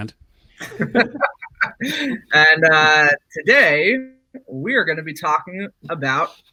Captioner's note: laughs